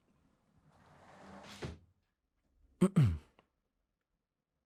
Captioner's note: sound of door closing